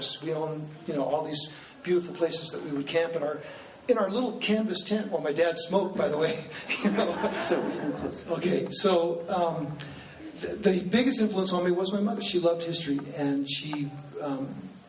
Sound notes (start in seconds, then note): 6.4 laughing